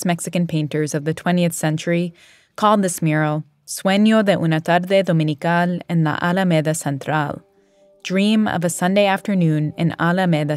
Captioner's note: speaking Spanish